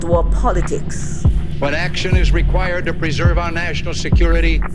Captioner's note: soundbite of archived recording